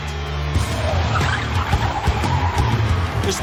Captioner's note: tires screech